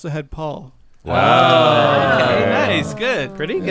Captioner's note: murmuring in approval